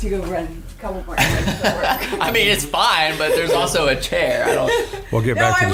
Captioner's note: laughing